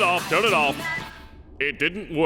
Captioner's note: beep